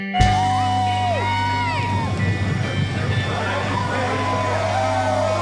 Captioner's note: cheering